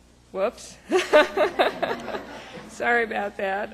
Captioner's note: laughing